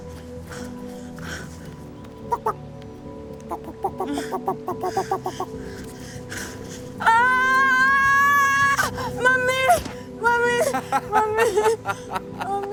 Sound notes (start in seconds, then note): 7.0 screams; 10.6 Iffy laughs